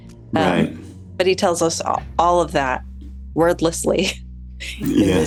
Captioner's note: chuckles